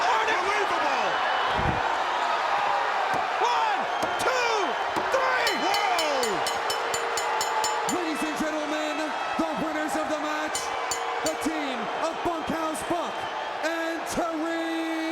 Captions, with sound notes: Unbelievable! One, two, three. Whoa. (bell clanging) Ladies and gentlemen, the winners of the match, the team of Bunkhouse Buck and Terry Funk.